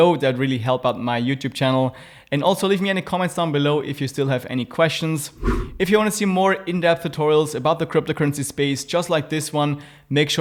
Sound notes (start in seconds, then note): 5.3 air wooshing